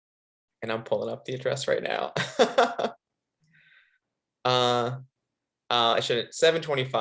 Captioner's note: laughing